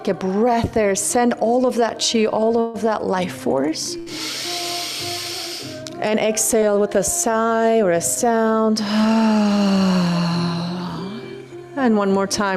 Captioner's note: sighs